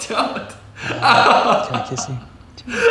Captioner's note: laughing